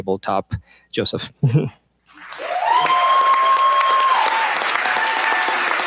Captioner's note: cheers, applause